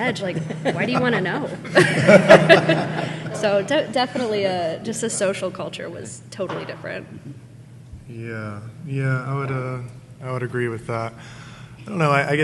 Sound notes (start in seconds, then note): 2.3 audience laughing